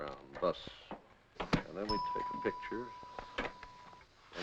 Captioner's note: machine Dinging